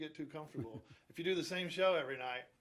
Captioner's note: chuckles